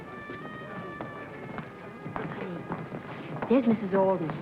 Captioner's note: light music; footsteps approaching